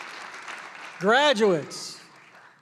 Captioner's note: applause